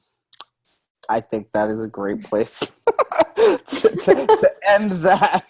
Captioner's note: laughs